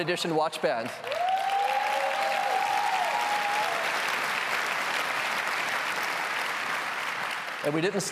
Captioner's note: applause